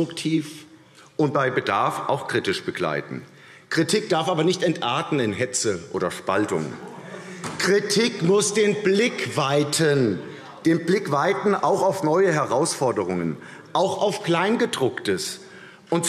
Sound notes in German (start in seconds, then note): 6.8 Lachen AfD